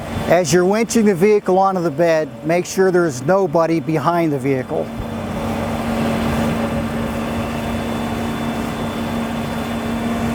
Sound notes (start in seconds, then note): 5.2 machinery whirring